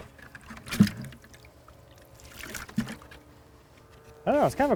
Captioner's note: water splashing